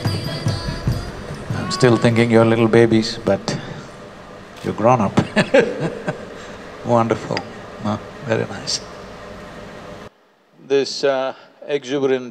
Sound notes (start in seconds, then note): 5.1 laughs